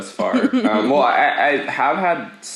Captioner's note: laughs